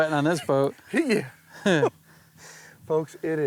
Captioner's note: laughs